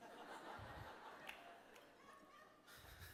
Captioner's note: laughter